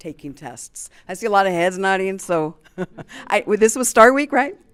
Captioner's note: chuckles